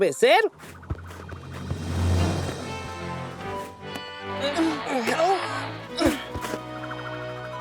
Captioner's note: strained groaning; exciting music